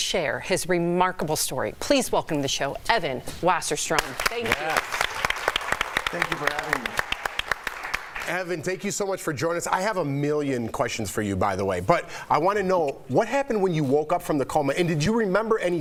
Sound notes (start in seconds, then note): 8.6 applause